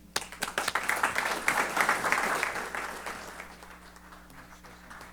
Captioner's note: applause